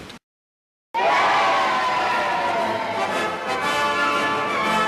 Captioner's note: cheering